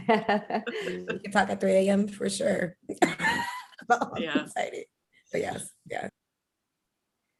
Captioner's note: laughter